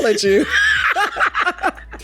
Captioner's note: laughs